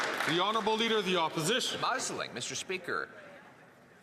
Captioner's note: some Applause